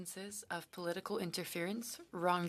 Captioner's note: speaking French